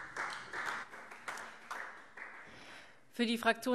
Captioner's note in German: Beifall Freie Demokraten